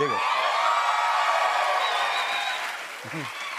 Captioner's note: cheers and applause